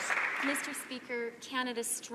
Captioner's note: some Applause